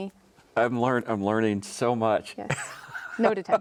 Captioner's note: chuckling